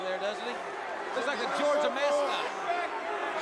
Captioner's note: crowd chatter